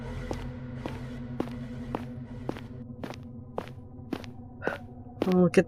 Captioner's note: footsteps, a siren that cuts off